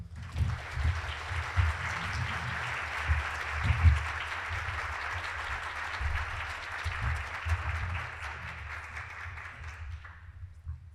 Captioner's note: clapping